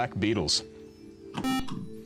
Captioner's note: beep